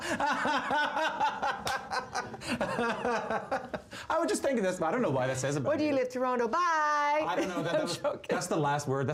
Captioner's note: laughter